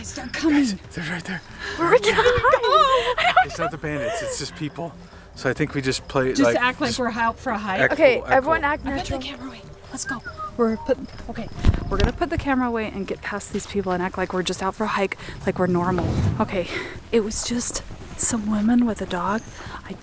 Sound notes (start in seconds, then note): 9.9 whistling